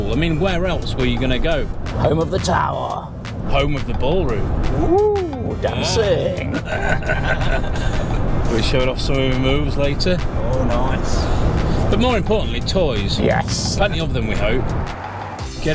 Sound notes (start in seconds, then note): 6.4 both laughing